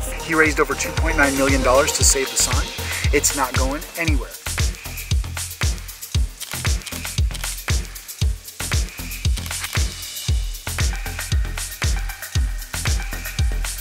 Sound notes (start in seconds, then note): 4.8 upbeat music; 6.4 camera shutter clicks